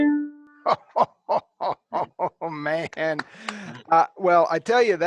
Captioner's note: laughing